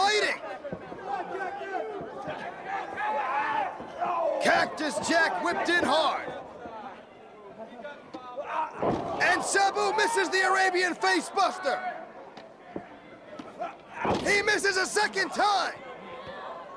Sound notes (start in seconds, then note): 2.7 crowd chatter; 16.1 crowd chatter